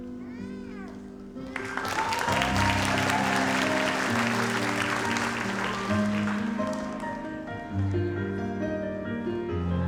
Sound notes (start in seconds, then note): 1.4 audience applauds; 6.1 gentle music